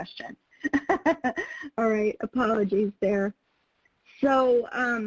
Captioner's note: laughs